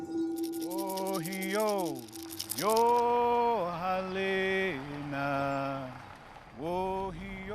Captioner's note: man chanting in Native language